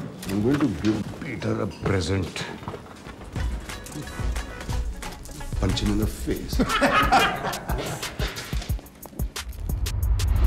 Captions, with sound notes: I will give Peter a present punch him in the face [everyone laughs]